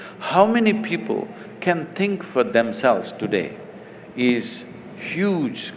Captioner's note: none